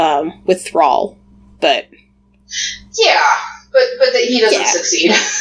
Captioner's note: laughs